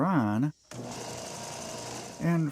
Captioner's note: sander sounds